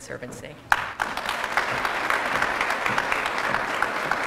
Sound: applause

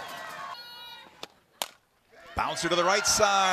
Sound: crowd shouts

